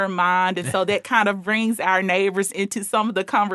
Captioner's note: chuckling